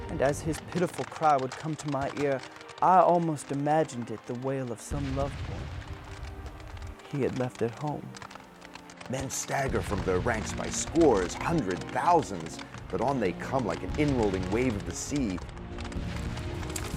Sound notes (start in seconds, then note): 0.0 voiceover; 9.4 voiceover